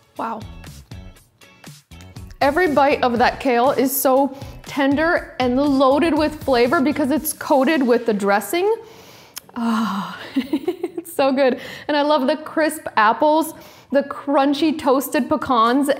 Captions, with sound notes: Wow. Every bite of that kale is so tender and loaded with flavor because it's coated with the dressing. Oh, (laughs) it's so good. And I love the crisp apples, the crunchy toasted pecans,